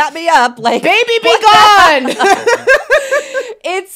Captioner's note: laughs